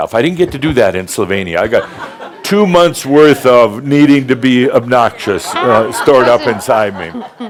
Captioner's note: laughter; more laughter